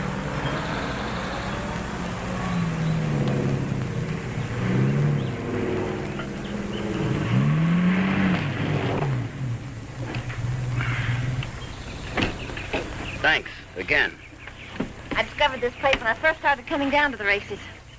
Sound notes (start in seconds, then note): 3.7 engine rumbling